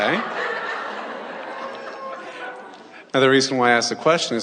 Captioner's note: audience laughs